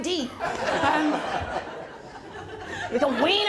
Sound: laughter

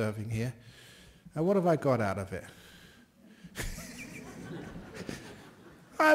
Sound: laughter

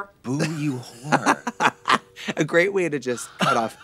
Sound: Trixie chortles

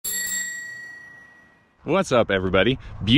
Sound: bell rings

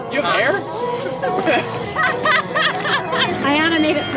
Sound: laughter

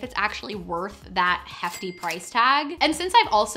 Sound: cash register ka-chings

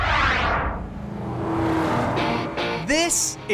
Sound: swoosh; car roaring

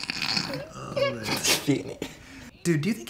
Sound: laughing

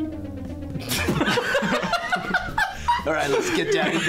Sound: laughter

